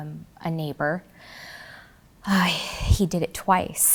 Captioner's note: heavily sighs